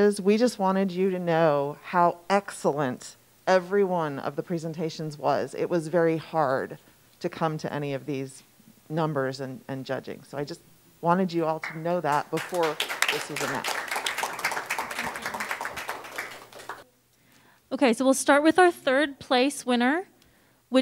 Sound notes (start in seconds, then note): 12.0 applause